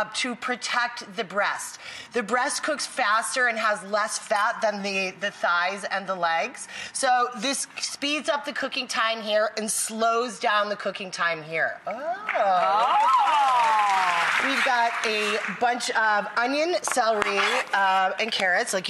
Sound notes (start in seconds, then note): 12.2 audience claps